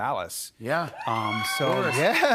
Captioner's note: cheers and applause